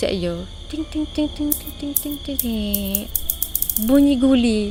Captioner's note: the sound of a marble